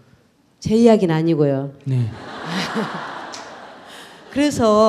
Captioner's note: audience Laughter